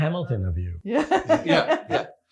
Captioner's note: laughs